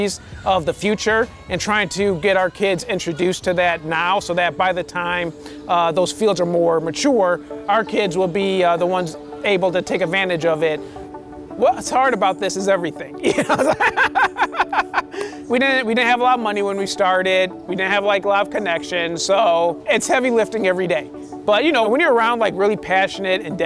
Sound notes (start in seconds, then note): 13.2 laughing